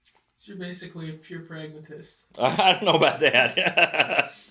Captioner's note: laughs